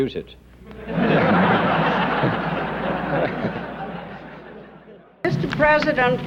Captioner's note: laughter